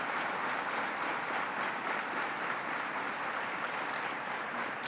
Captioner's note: applause